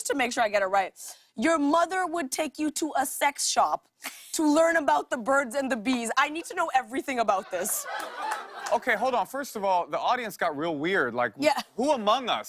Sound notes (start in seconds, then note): 7.2 laughter